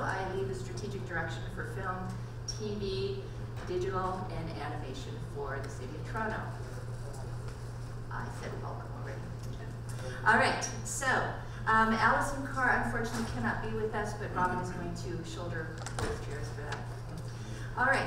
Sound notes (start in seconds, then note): 8.4 speaks quietly